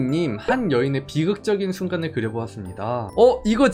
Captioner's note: voiceover